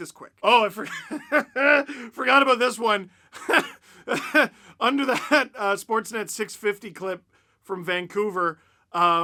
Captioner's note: laugh